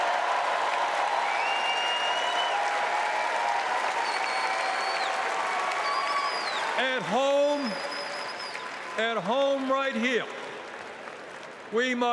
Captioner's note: cheering